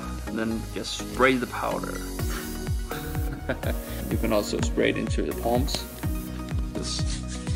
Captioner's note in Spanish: risas